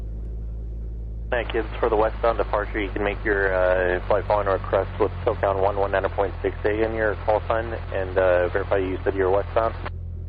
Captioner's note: aircraft